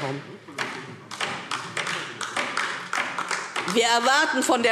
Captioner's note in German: Beifall DIE LINKE